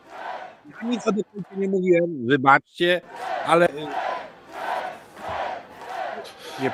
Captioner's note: cheers